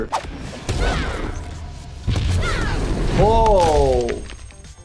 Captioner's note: yelling